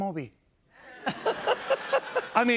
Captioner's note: laughter